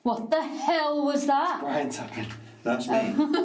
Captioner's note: tapping